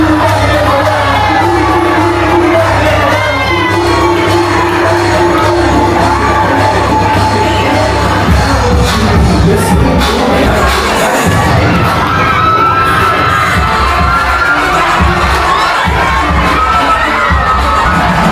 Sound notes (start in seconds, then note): 2.3 crowd Cheering; 2.3 upbeat Music